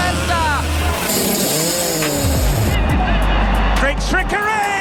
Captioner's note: kart sound and background music